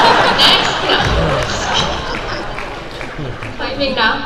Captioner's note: crowd laughs